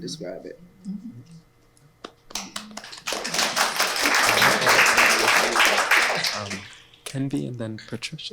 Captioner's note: applause